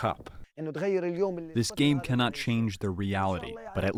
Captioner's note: through translator